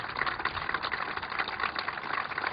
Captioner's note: applause